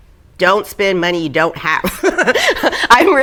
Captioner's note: laughing